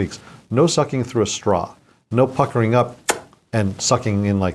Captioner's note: smooching